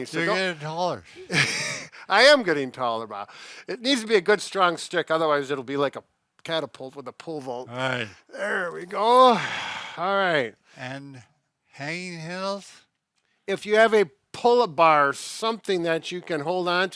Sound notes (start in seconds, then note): 1.2 laughs